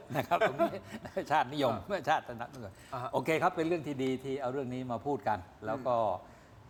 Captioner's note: laughter